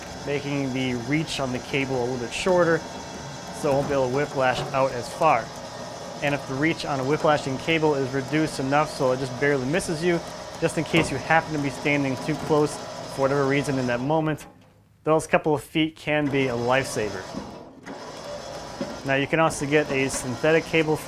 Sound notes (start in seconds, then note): 5.5 engine whirring; 16.5 engine whirring